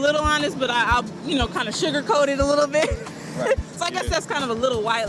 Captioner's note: laughing